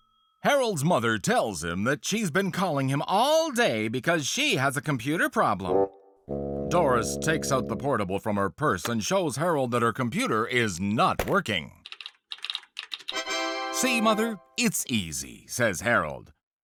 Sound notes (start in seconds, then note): 11.7 Windows startup sound; 11.8 typing